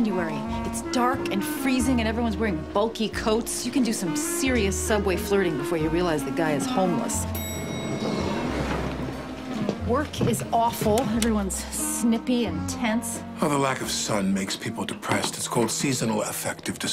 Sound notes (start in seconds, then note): 7.2 elevator chimes